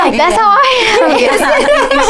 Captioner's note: laughing